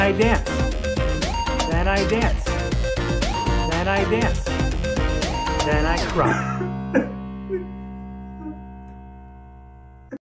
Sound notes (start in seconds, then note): 0.0 upbeat music; 7.5 crying